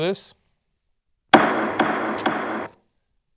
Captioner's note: gavel sound effect